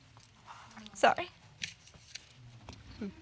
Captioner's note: voice shaking